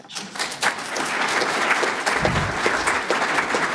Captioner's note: applause